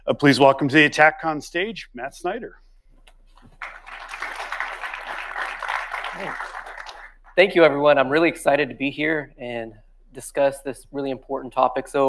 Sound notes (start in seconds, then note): 3.4 audience clapping